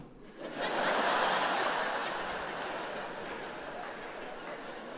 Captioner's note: audience laughs